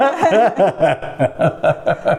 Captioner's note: laughing